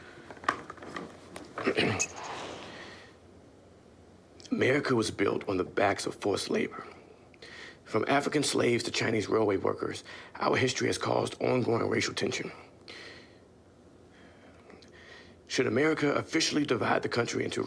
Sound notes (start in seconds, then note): 1.6 throat clearing